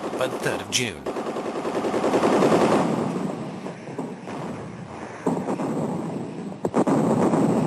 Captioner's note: guns blasting; heavy artillery booming